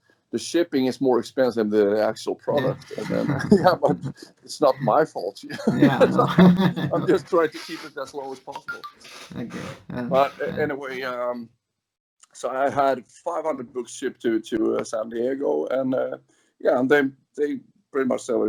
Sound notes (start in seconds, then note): 5.5 laughs